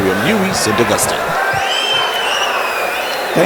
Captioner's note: wild applause and cheering for 22 seconds